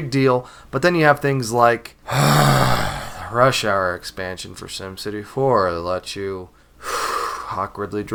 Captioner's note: sigh; sigh